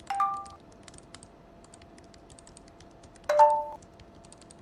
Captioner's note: sounds of a overheating computer, clicking and typing, from the left; notification sound; notification sound; sounds of a overheating computer, clicking and typing, from the left